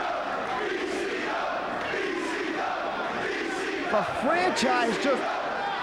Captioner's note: crowd chanting